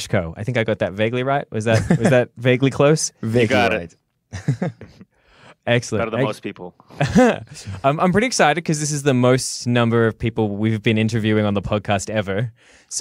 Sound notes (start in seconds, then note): 6.9 laughs